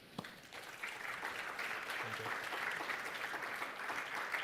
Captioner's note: audience applauds